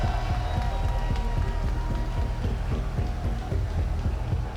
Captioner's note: applause